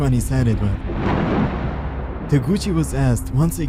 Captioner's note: thunder crackles loudly